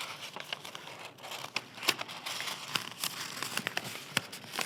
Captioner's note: page ripping; page crinkling